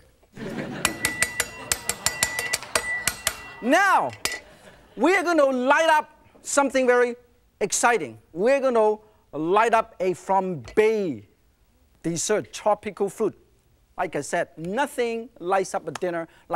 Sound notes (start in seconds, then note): 0.4 laughing; 0.5 knife clanging